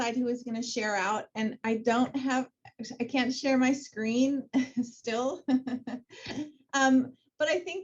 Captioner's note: laughs